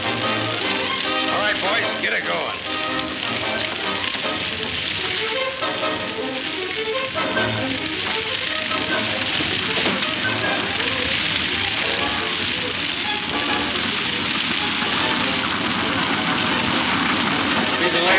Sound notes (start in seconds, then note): 6.6 dramatic music; 13.4 wagon rumbling